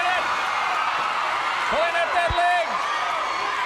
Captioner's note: crowd cheering